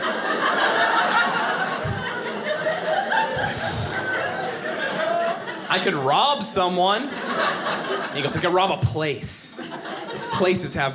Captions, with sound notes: (audience laughing) (exhaling loudly) "I could rob someone." He goes, "I could rob a place, "'cause places have more